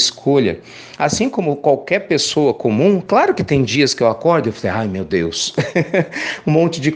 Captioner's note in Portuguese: risos